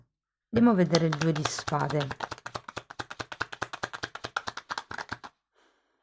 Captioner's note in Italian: Applauso